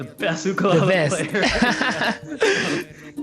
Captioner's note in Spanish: Risas